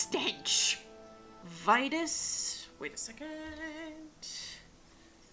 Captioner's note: laughs; sing songy